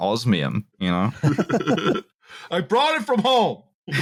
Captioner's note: laughter